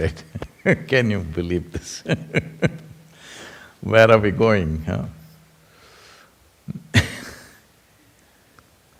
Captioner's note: laughs; laughs